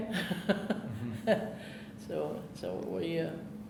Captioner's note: chuckling